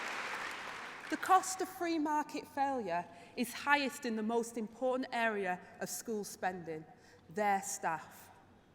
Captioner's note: applause